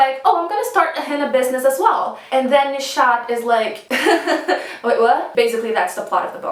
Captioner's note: nervous laughter